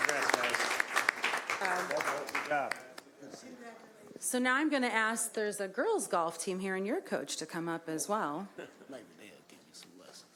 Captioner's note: applause